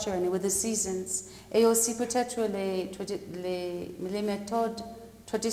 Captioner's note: speaking french